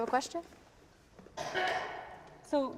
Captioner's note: audience member coughs